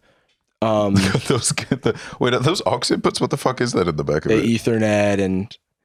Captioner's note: laughs